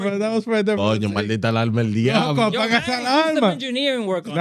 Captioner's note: speaking In Foreign Language